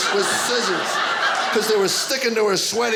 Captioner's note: audience laughing